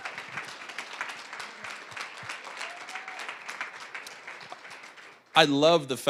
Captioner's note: applause, cheering; applause